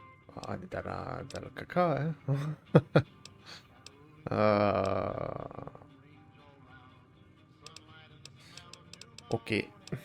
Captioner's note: laughs